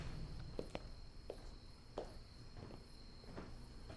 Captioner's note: insects chirping